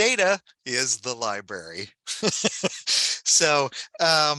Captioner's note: laughs